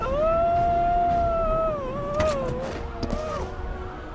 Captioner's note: woman screaming; dramatic music